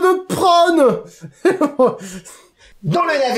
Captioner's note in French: Rire